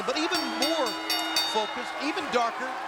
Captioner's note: bell rings